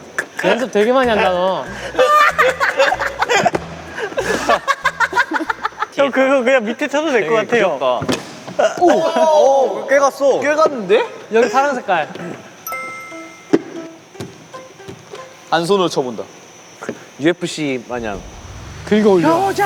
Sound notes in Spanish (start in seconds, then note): 1.0 Se ríe con la garganta; 4.5 Jajajajaja